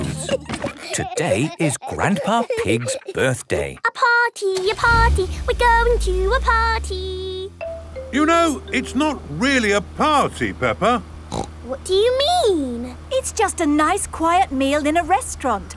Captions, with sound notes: - (giggling) - Today is Grandpa Pig's birthday. - (sing song voice) A party! A party! We're going to a party! - You know, it's not really a party, Peppa. - What do you mean? - It's just a nice quiet meal in a restaurant,